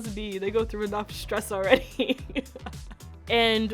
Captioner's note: laughs